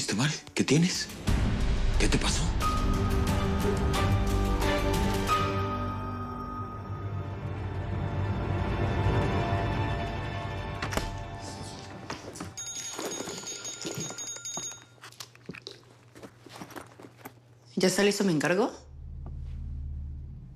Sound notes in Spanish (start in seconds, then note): 12.5 Suena el celular